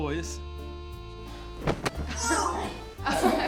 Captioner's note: body thuds